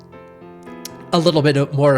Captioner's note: lick smack